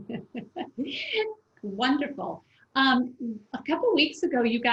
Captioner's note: laughs